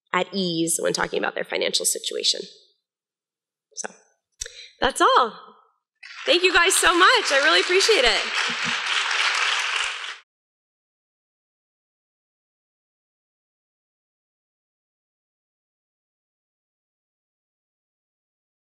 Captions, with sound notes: at ease when talking about their financial situation. So that's all. Thank you guys so much. I really appreciate it. [APPLAUSE]